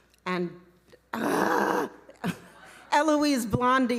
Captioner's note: groaning